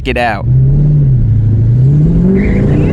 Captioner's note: once again, tires screeching, engine roaring